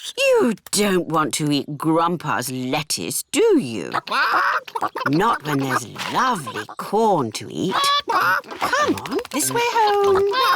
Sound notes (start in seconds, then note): 3.8 chickens chatter